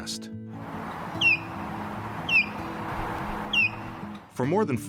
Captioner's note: osprey calling